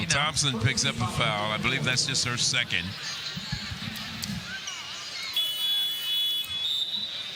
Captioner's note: laughter